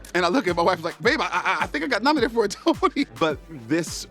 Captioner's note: laughs